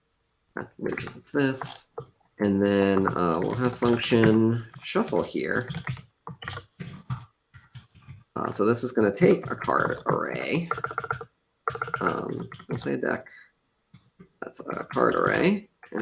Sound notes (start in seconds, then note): none